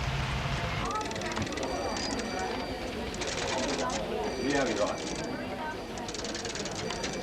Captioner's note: office personnel chatting; phones ringing